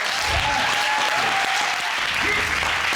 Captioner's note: audience cheering